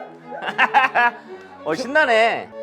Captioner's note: laughing